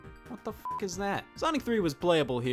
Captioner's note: beep